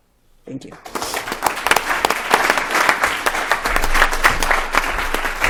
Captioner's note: applause